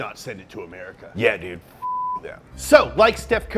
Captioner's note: beeping